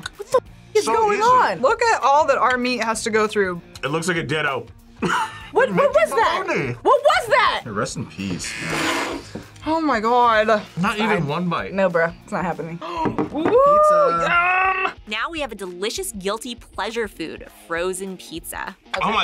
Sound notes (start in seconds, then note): 5.0 laughs